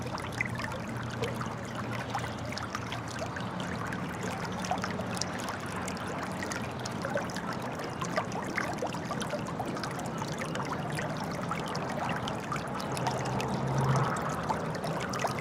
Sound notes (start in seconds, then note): 3.4 water running